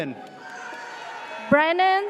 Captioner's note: audience cheers